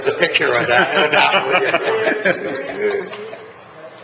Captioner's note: laughter